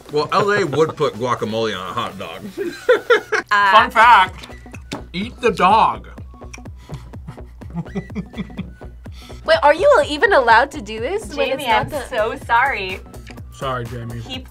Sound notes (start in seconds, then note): 2.4 laughs; 6.9 laughs